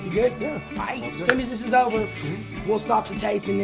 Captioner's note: claps